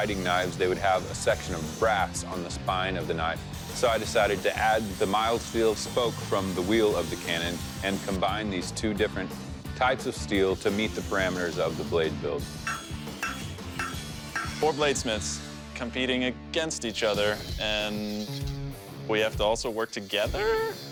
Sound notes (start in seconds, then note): 12.6 hammering